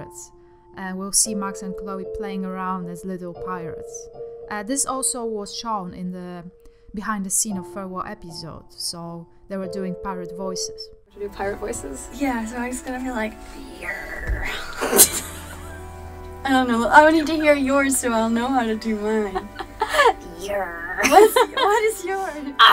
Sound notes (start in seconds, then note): 13.9 laugh